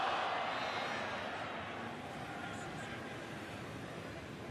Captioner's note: exclamations